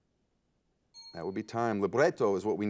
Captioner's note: ding